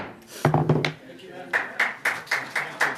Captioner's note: applause